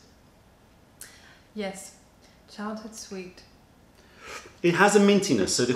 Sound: sips tea

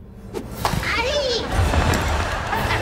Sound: screaming

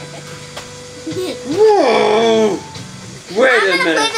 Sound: groans

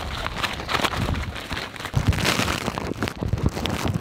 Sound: crinkling

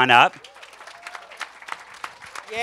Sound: cheers and applause

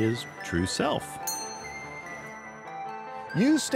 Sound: bell dings

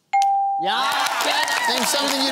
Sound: cheering

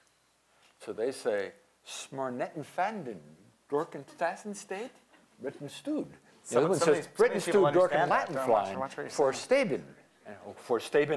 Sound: non-english speech

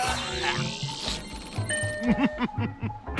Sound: laughing

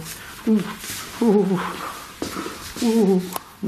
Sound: moans

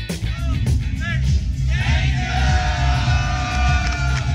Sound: crowd cheering

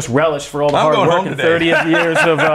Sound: laughs

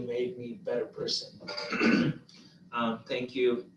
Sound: clearing throat

